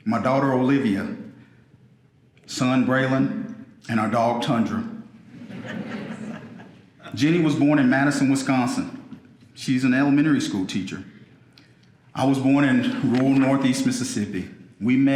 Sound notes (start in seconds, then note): 5.2 audience laughing